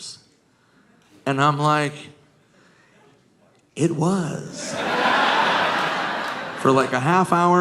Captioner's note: audience laughing